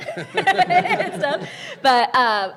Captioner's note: people laughing